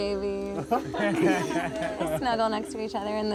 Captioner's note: everyone laughs